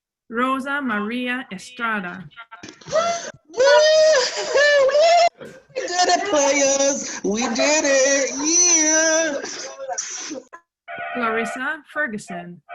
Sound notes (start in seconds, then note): 3.2 cheering